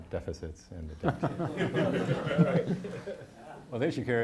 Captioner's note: audience laughing